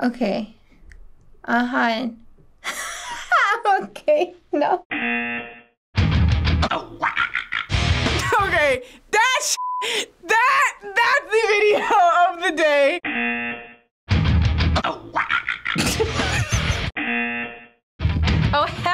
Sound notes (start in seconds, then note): 2.5 laughs; 4.9 buzzer rings; 10.7 laughs; 13.1 buzzer rings; 15.8 laughs; 17.1 buzzer rings